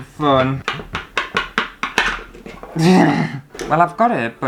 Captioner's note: struggling Sounds